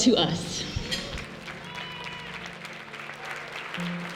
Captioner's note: clapping